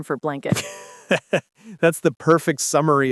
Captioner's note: laughs